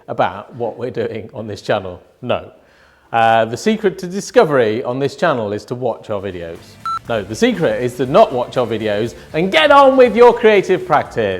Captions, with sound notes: about what we're doing on this channel? No. The secret to discovery on this channel is to watch our videos. (audio beeping) No, the secret is to not watch our videos and get on with your creative practise.